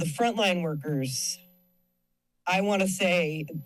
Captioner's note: pause